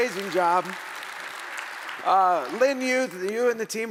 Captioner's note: audience applauding